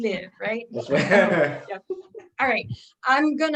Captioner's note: laughs